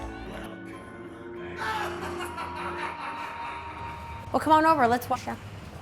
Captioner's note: howlish laughter